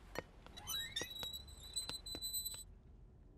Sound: door closes

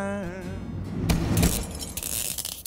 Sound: metal pounding; wind whooshing; electricity buzzing

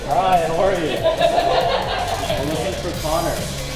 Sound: laughter

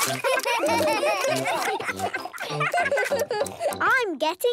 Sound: giggling, chewing

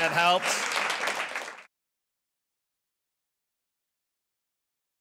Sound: applause

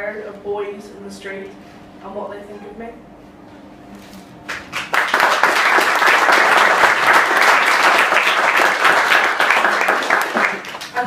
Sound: clapping

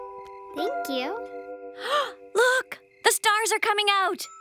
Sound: gasps

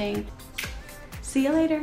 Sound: kiss smacking

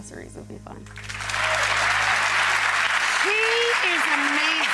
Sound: crowd applauding

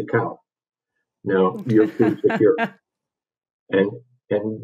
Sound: laughs

